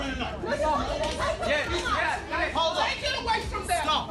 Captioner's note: customers arguing